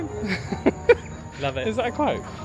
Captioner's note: laughs